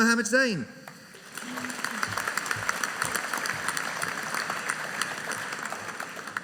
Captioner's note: audience applauding